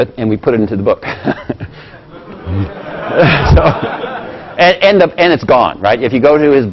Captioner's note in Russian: Смеется